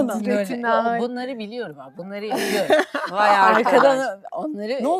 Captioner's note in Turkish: kahkaha